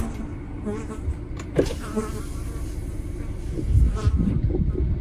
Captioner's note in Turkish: Sinek sesleri